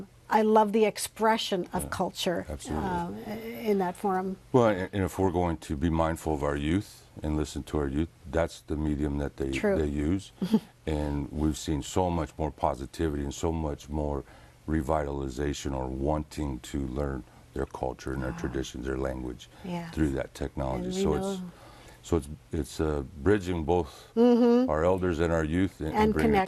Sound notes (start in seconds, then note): 10.9 laughs